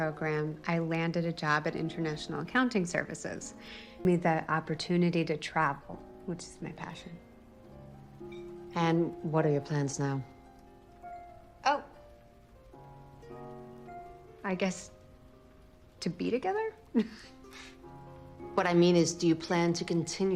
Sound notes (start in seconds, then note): 16.9 chuckling